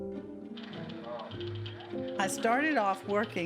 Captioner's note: typewriter keys clacking